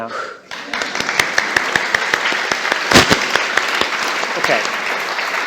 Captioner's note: applause